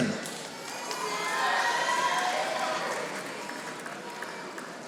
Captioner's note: audience applauding